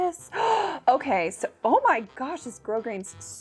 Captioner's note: inhaling sharply